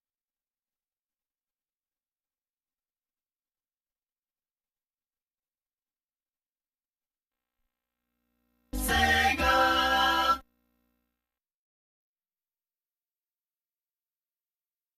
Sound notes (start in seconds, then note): 9.0 singing; 12.1 silence